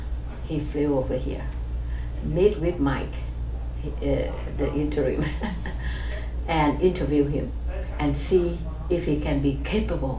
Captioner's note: laughs